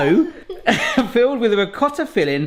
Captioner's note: laughs